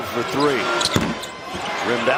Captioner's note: whistle